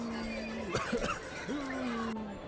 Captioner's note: cough